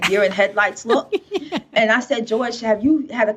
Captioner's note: laughing